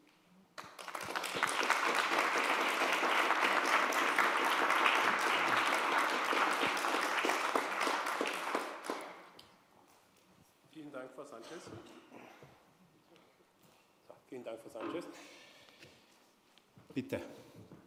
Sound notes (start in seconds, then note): 0.5 applause